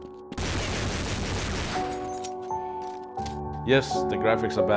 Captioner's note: gunshots firing